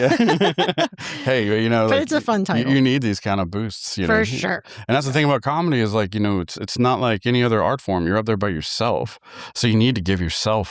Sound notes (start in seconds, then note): 0.0 laughter